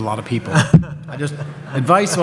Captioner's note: audience laughs